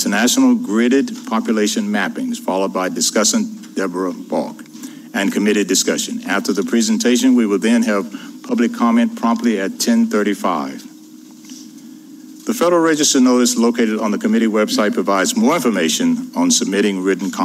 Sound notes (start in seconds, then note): 2.2 speaker off mic